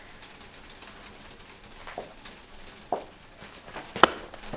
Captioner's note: rain hitting window